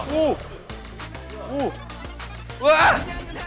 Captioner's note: splash x2